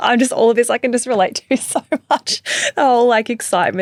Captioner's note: chuckling; chuckling